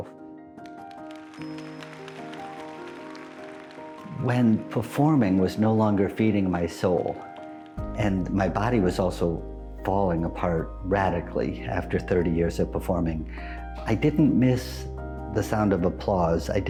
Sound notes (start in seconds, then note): 0.3 soft music; 0.5 audience applauds